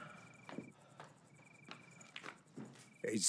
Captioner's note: crickets chirping; footsteps tapping